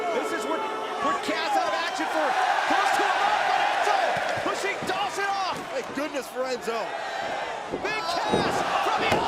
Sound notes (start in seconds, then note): 0.9 crowd cheering